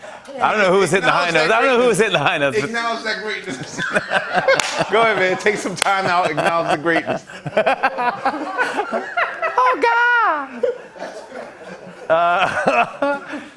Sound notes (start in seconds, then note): 4.2 laughter; 7.3 laughter; 9.3 high-pitched voice; 10.4 laughter; 13.3 normal voice